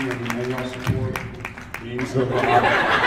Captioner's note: applauds; laughs